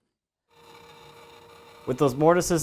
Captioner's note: saw buzzing